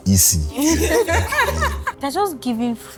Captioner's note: laughs